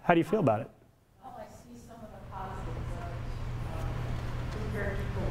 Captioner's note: static